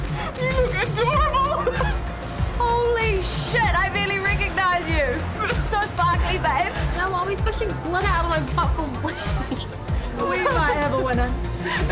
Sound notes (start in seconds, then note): 0.3 stifles laugh; 10.0 laughs